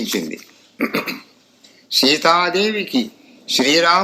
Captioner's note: clearing throat